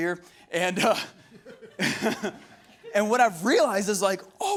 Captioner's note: laughing